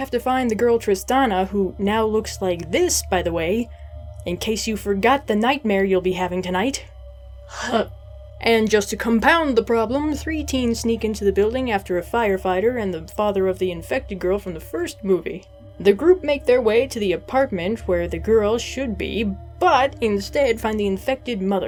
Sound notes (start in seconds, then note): 7.5 gags